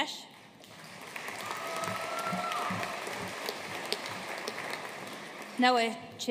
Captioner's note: audience cheering and applauding